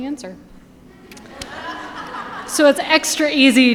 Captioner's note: audience laughing